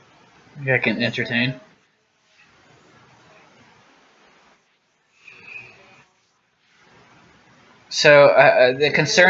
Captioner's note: long pause; another long pause